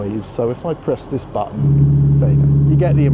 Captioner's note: humming